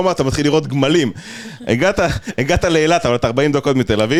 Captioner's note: laughter